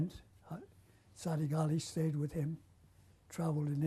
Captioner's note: non-english